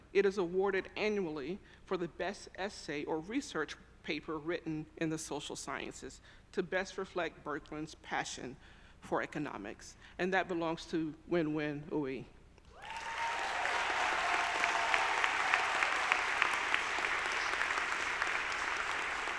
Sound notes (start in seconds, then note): 12.7 audience applauding; 12.7 audience cheering